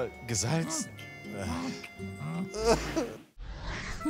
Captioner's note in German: Er schluchzt